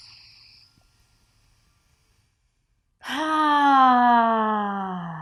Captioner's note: sighs audibly